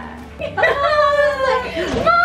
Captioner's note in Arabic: يضحك